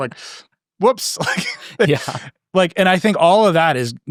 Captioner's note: laughing